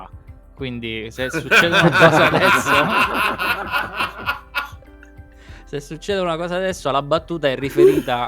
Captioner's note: laughs